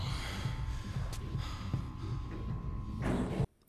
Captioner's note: sighs